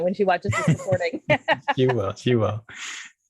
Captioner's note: laughing